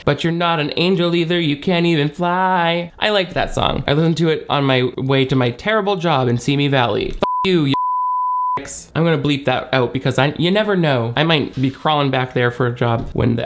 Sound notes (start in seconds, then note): 7.2 beep